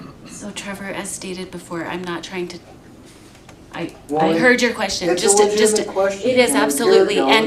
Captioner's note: clears throat